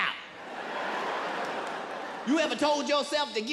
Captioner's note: audience laughs